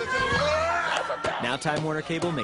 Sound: boys screaming

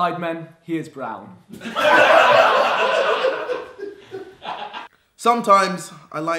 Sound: audience laughing

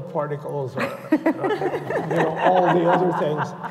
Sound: laughter

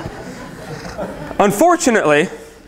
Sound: laughter

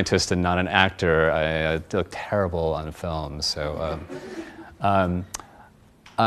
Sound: audience laughs

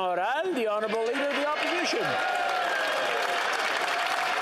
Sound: some Applause

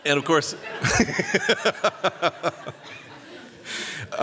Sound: laughter

